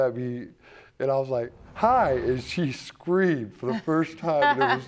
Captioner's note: judge lake laughing